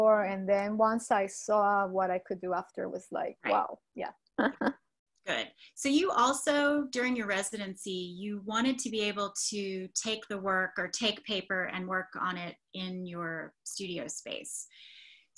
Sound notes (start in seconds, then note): 4.4 laughs